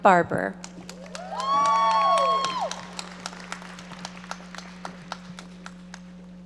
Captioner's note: audience cheering and applauding